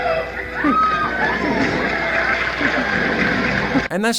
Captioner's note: audience Cheering and Clapping